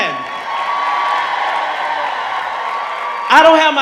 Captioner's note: audience cheering